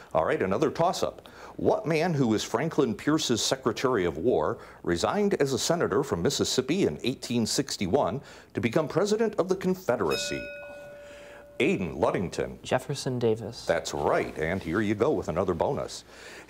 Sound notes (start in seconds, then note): 10.0 bell ringing